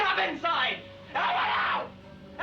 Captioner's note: screaming